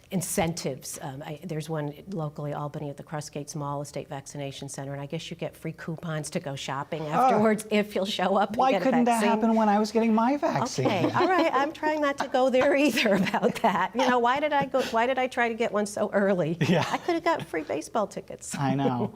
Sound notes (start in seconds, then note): 14.4 laughter